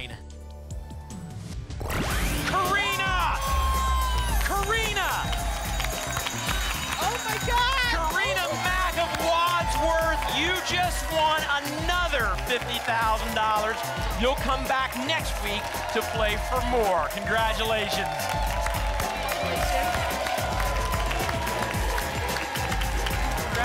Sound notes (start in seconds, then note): 5.4 applause and cheering; 18.2 applause and cheering cont